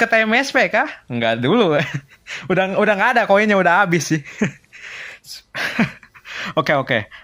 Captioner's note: laughs